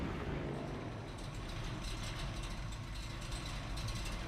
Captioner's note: engine stops